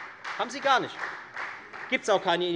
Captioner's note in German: Beifall Freie Demokraten